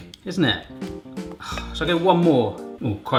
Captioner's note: sighs